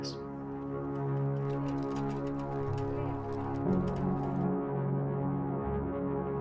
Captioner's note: wheels on a paved road